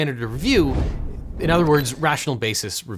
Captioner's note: air whooshing